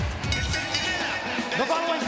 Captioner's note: bell ringing